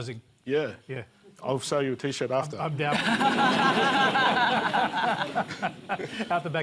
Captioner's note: laughter